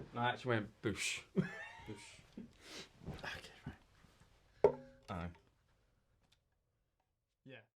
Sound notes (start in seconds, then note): 1.3 laughs; 4.6 metal thudding